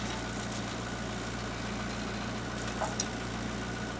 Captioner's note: engine rumbles